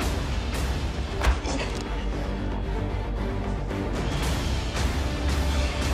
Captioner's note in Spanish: Golpes